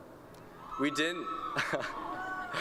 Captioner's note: cheering